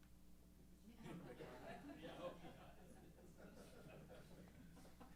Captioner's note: laughter